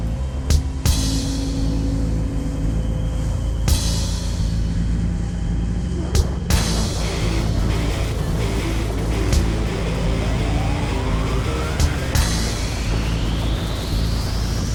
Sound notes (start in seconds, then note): 6.8 upbeat rock music; 8.5 engine humming